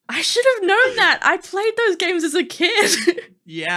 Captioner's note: laughing; laughing